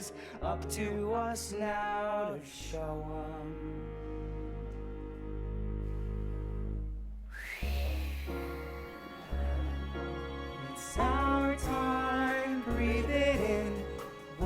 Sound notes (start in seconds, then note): 7.3 exhaling playfully